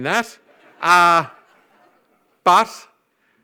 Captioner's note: audience laughs